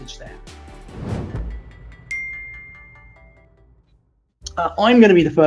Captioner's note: upbeat music; logo whooshing